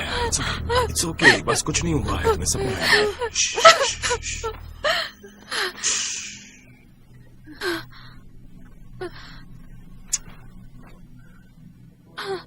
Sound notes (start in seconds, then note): 6.1 breathing slows